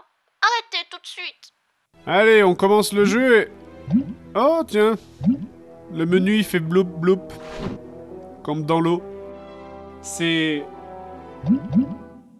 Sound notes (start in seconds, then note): 3.8 bubble Noise